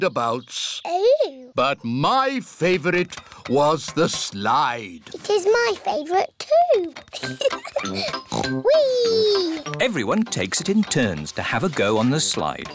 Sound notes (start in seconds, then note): 7.1 laughs; 8.0 oinks